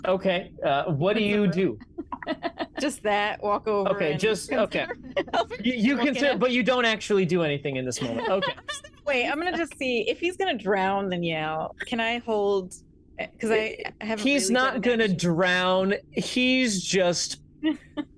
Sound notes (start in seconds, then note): 3.8 laughs; 5.9 everyone laughs